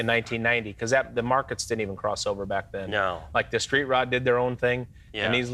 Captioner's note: none